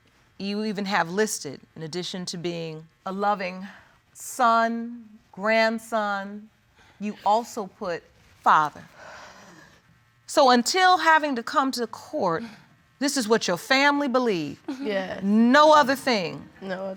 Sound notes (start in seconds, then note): none